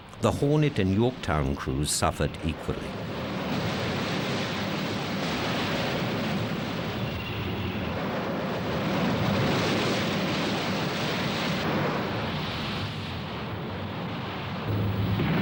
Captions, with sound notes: The Hornet and Yorktown crews suffered equally. (plane engine roars)